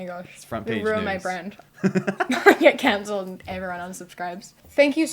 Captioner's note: laughter